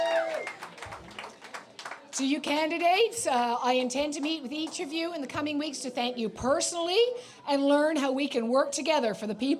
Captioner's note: applause